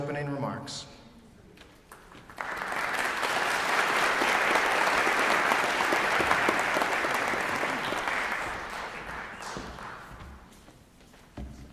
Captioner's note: applause